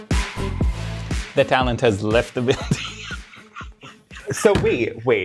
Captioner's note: laughs